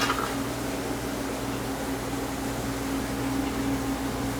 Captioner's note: fans humming